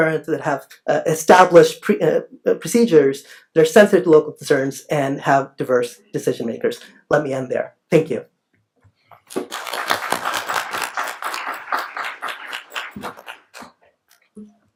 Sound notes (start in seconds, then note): 9.3 applauding